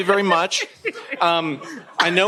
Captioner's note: laughter